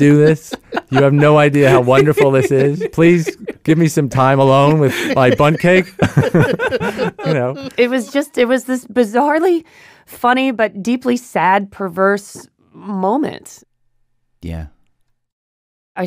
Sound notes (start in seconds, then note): 6.9 laughs